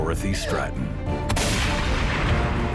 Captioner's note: gun shot